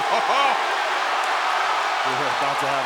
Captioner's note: crowd cheering